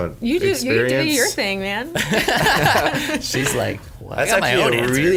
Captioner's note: laughs